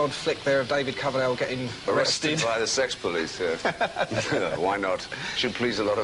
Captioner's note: laughs